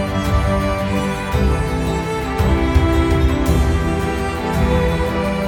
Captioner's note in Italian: Applauso